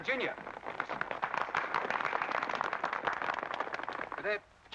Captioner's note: crowd applause